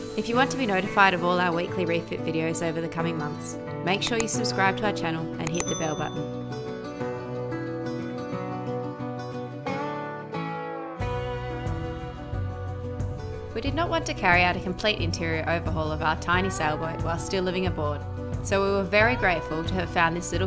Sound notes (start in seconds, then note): 5.4 dings